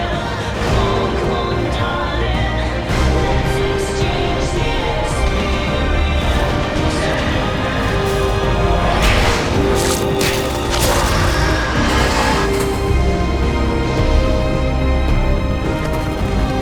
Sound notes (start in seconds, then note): 9.2 Vecna screeching; 9.9 dramatic music